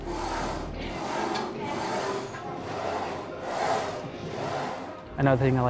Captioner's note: gym equipment shuffling